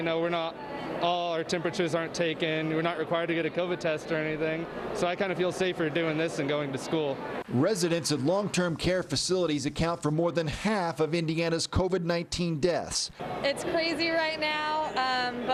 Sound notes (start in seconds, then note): 7.6 voiceover